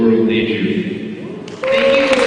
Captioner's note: cheering